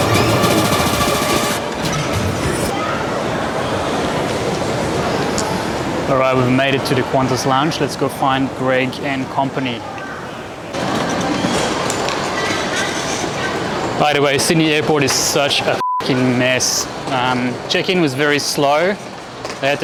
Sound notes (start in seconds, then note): 12.2 background chatting; 15.7 beeps